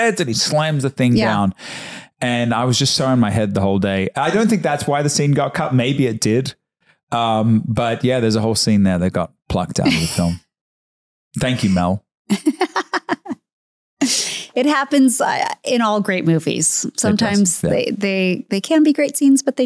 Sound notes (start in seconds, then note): 11.4 Candace laughing